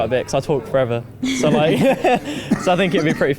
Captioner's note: laughs